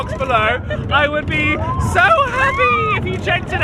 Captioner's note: shrieks